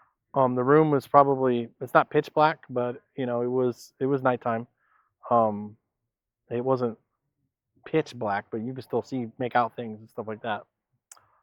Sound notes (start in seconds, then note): none